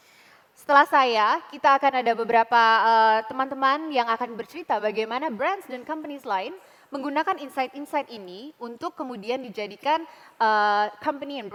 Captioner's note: non-english speech